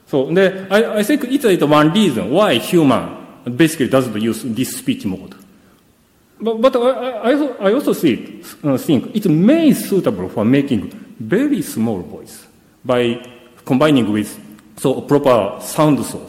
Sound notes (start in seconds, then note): none